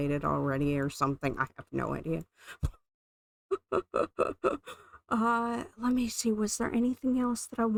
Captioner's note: laughing